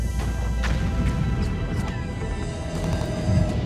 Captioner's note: gunfire